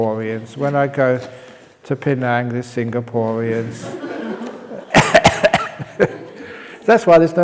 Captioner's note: laughs